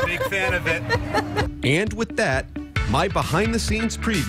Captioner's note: laughter